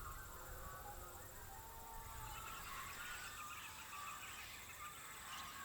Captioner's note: birds continue chirping